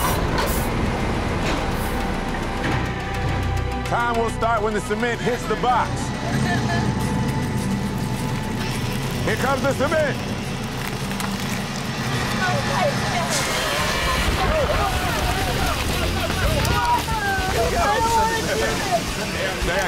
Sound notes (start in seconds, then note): 0.3 cement truck rumbling; 0.3 dramatic music; 7.1 sobbing; 7.7 cement truck rumbling; 7.7 dramatic music